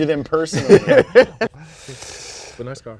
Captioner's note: both laughing; breaths deeply